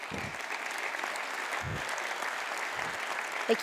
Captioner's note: Khán giả vỗ tay